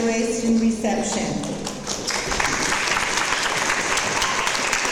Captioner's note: audience applause